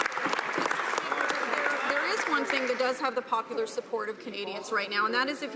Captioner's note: some Applause